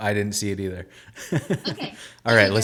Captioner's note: laughing